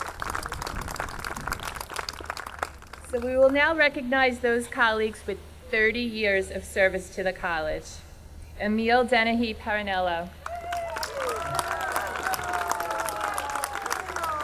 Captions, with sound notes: - So we will now recognize those colleagues with 30 years of service to the college. Emil Dennehy-Parrinello. (audience cheering)